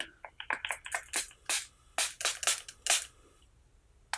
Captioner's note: spraying intensely